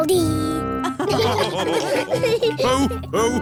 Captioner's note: all laughing